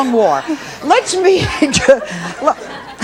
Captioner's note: laughs